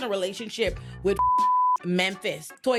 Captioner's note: beep